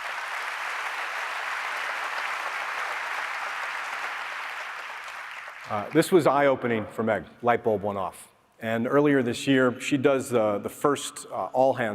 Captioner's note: applause